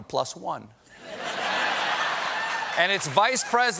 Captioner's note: laughter